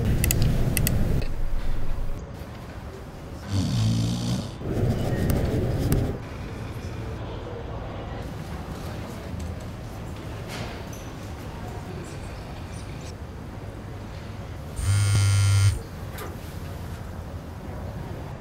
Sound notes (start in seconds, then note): 0.1 mouse clicking; 3.4 snoring; 14.8 phone buzzing